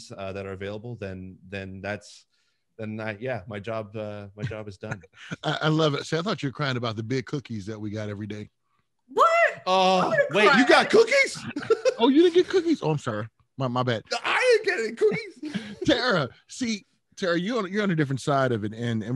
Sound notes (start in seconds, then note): 4.8 laughing; 14.3 speaks faintly